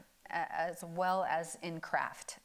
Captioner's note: none